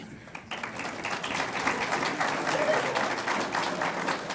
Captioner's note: audience applauds